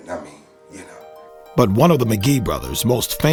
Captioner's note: voiceover